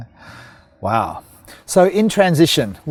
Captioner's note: sighs